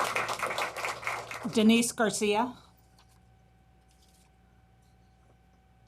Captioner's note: applause